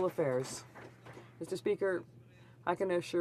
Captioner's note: some Applause